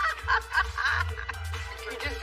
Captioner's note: laughter